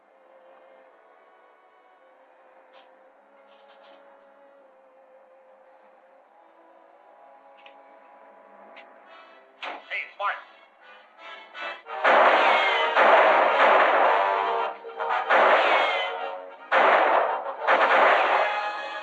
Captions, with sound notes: Hey, it's Martin! - [gunshots] - [tense music] [gunshot] [gunshots]